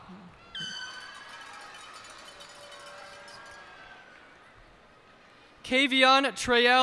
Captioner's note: cheers and applause